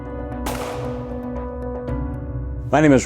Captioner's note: gun firing